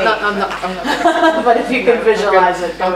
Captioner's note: laughs